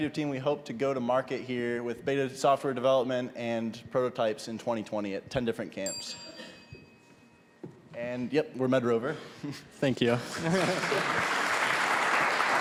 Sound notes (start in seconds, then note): 5.8 ding; 10.2 applause